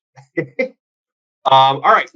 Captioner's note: laughs